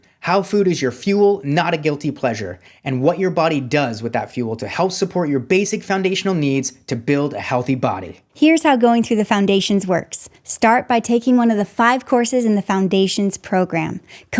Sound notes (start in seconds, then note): none